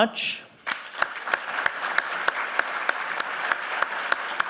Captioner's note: applause